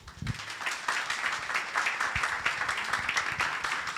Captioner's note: audience applauding